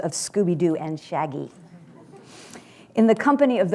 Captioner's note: laughter